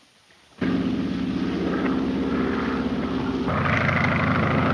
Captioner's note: engine droning